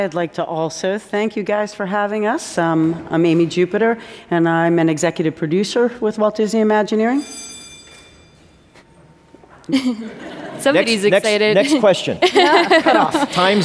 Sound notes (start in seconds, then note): 6.9 bell ringing